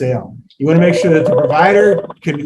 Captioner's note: phone ringing